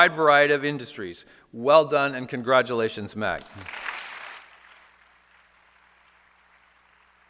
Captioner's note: applause